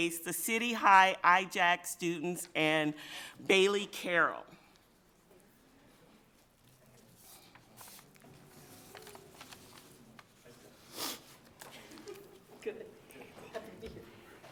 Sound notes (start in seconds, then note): 11.6 people chattering; 11.7 people laughing